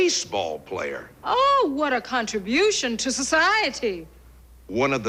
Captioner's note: sarcastically